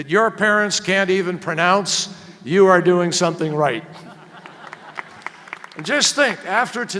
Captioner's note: laughter and applause